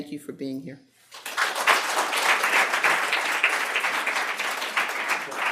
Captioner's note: audience clapping